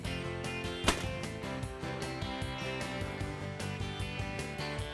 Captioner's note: loud gunfire